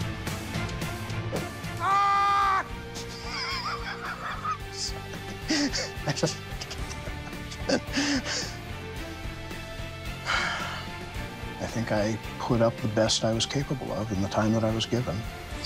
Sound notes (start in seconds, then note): 1.4 yells; 2.9 laughs; 10.2 sighs